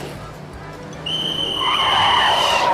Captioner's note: tires squealing